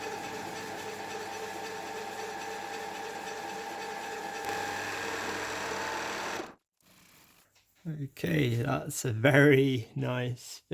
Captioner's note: lathe noises